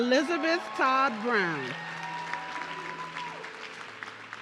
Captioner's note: audience cheering